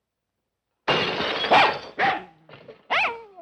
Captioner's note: bottle shatters; dog barking